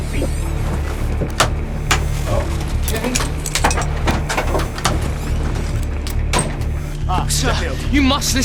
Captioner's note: click click